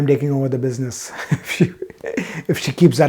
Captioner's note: chuckles